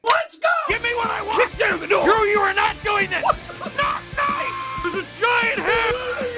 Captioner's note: screaming; Harry potter screaming